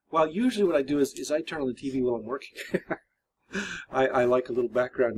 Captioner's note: laughs